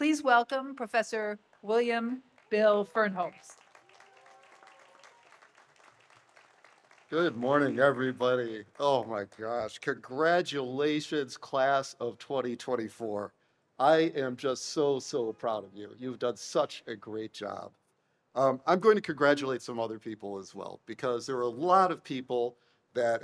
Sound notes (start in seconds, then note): 3.2 audience applauds